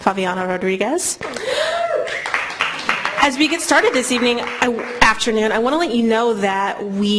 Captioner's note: applause